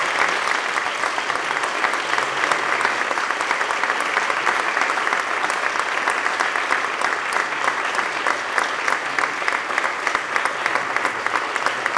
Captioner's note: applause